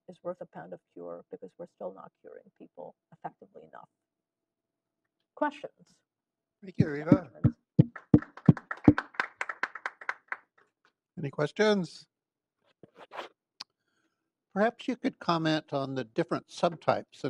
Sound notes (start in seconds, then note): 9.7 applause